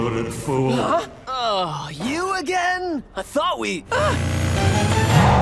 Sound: gasps

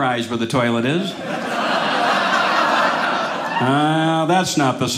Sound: audience laughing

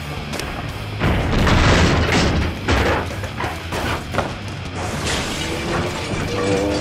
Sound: crash; slow motion booing

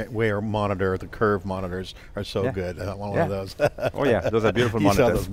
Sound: laughs

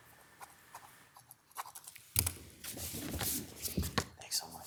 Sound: pen scribbling

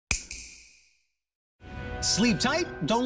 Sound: snap

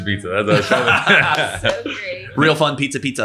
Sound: laughing

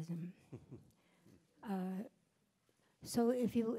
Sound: chuckles

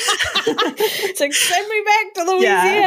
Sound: laughs

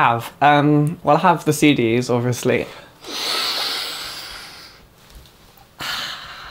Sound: sniffs

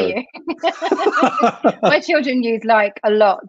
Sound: laughter

